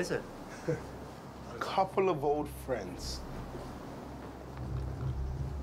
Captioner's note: laughs; suspenseful music